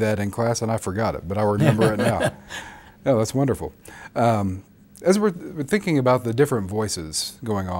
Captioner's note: both laugh